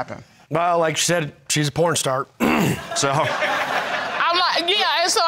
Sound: clears throat; crowd laughing

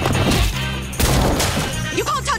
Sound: bang; thud

